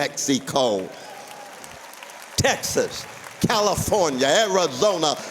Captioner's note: applause